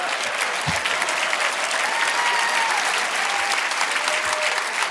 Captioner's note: audience applauding